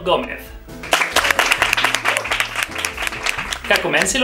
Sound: applause

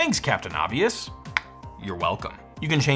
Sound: snaps

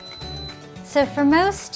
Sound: long, high-pitched beeping

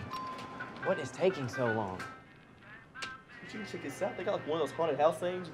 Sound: bell dings

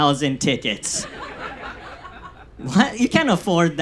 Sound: audience laughs

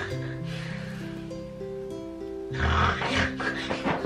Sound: gentle lullaby music; Therma snoring

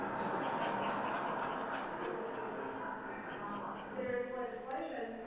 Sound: audience laughing

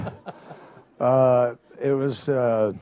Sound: laughter

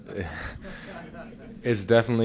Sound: laughter

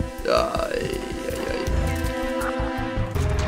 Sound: pained sounds

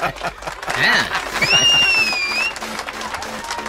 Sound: applause; whistles

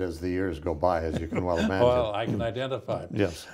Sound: laughs

